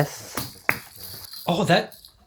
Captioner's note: suction cup pop